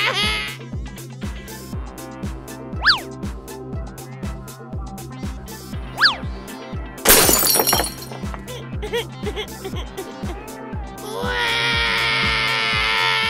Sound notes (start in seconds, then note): 7.0 crashes; 8.9 cries